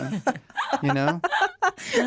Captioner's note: laughter